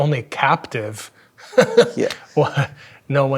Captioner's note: chuckling